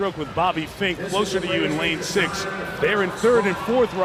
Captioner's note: audience loudly cheering